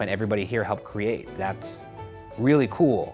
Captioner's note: none